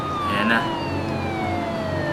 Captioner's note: police Siren at Distance